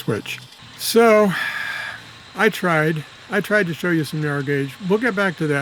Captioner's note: sigh